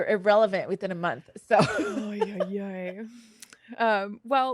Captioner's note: laughs